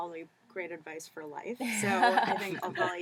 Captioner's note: laugh